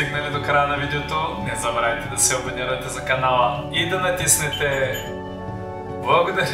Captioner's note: bell ringing